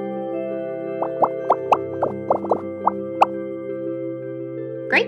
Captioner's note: bubbles popping